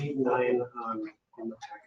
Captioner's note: speaking faintly